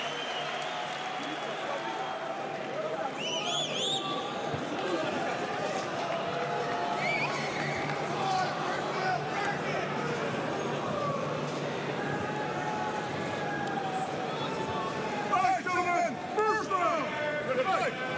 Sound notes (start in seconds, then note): 1.6 cheers and applause